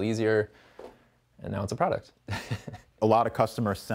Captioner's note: laughs